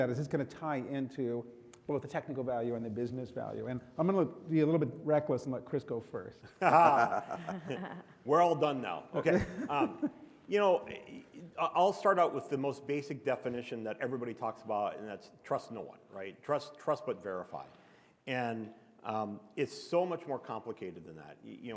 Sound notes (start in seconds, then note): 6.6 panelists chuckle; 9.2 chuckles